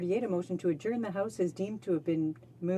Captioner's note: speaking in french